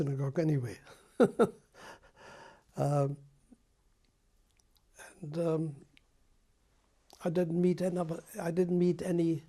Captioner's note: laughs